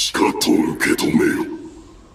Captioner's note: Japonês - mantido no original